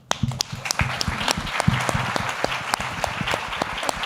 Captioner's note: applause